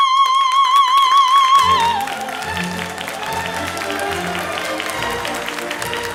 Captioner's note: audience cheering and applauding